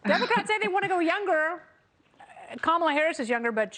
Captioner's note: laughter